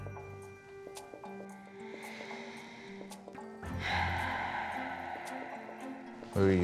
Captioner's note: sighs deeply